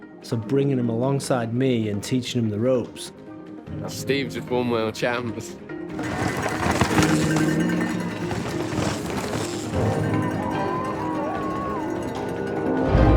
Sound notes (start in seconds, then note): 5.9 bike whooshing; 7.7 bell ringing; 10.3 dramatic music